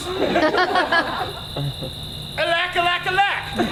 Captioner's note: audience laughs